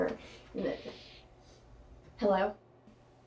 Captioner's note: sniffing